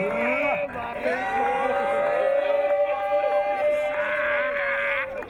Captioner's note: team cheering